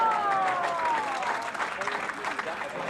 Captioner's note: crowd cheering